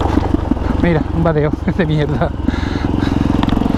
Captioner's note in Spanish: risas